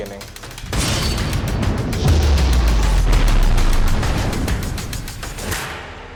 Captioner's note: upbeat rousing music; sonic boom